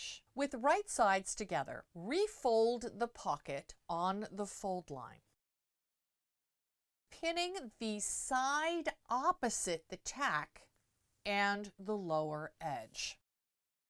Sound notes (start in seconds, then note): 5.3 no Sound Present; 13.2 no Sound Present